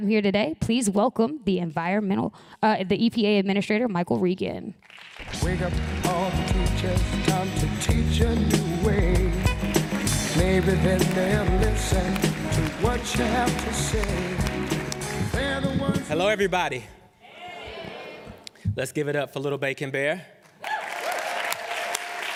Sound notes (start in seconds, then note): 6.6 applause; 22.1 applause